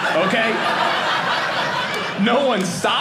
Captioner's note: audience laughing